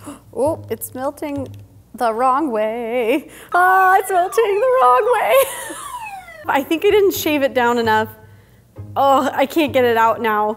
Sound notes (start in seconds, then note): 3.7 siren blaring